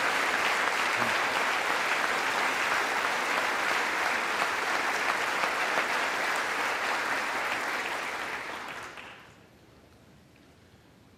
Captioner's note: applause